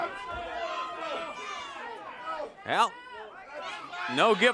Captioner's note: crowd chatter